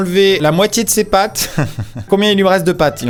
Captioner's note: giggles